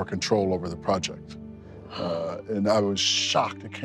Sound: gasps

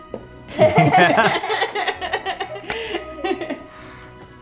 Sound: family laughing

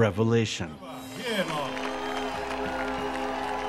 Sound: applause, cheers

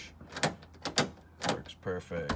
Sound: lock clicking

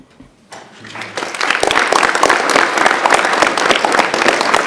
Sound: attendees clapping

